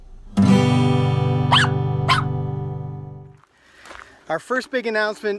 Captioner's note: guitar strumming; dog barking